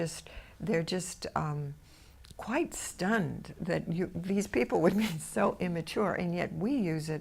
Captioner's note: laughs